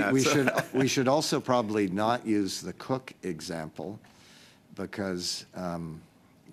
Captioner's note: laughter